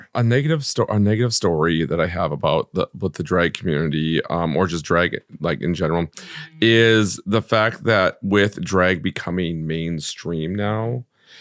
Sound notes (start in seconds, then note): none